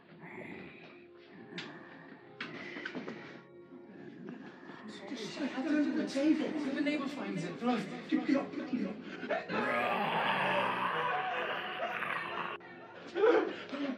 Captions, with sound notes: (snarling) I don't wanna take her, what if a neighbor finds her? (speaks faintly) (yelling) (snarling)